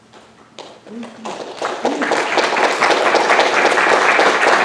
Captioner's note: audience applauding